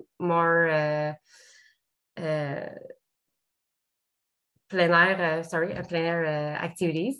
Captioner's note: speaks French